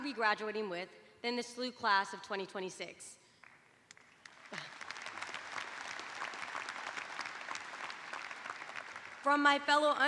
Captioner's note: applause